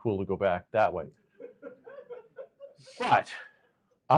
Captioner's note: laughter